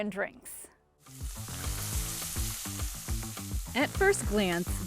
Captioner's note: light upbeat music; grill sizzling